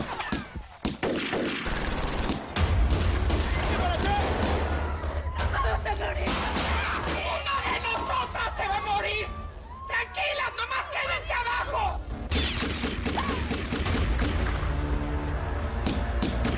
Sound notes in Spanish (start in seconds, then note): 0.0 Disparos; 4.7 Gritos; 6.2 Disparos; 12.3 Disparos